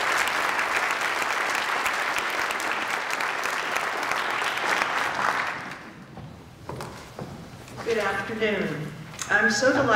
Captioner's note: applause